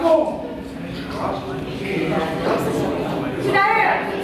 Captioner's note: animals deliberating